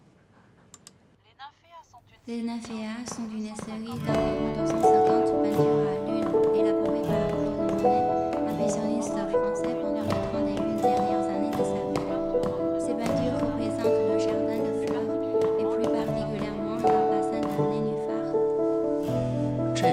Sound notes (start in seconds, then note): 2.2 French